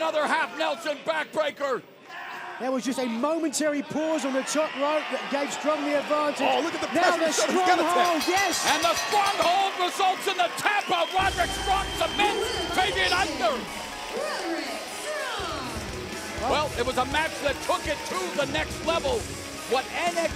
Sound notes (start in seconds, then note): 9.7 bell ringing